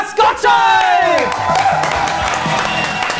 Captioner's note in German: Jubel, Applaus; Dynamische Musik